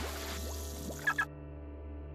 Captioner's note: beeping